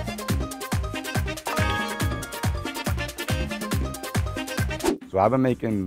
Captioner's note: music intensifies; leaderboard chimes